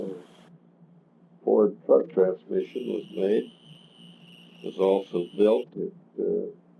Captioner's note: buzzing noise